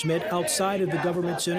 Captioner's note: chanting